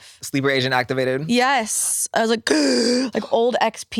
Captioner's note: gasps